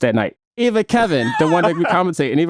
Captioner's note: laughs